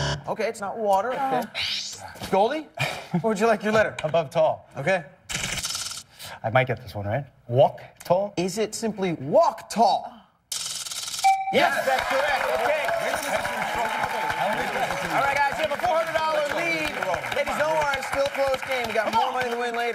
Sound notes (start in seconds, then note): 0.0 buzzer; 11.3 chime; 12.2 cheers and applause